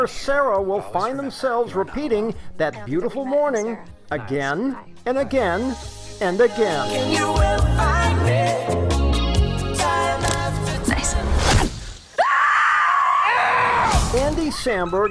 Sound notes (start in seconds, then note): 12.1 screams